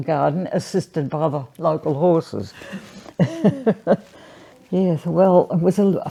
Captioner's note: laughs